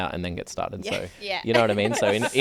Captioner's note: laughing